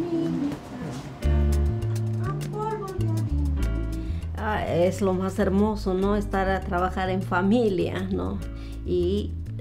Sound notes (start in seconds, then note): 1.2 upbeat Spanish music; 4.3 speaking Spanish